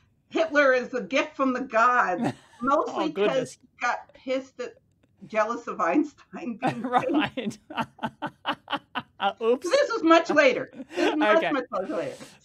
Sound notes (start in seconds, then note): 6.6 laughs